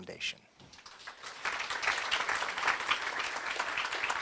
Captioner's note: applause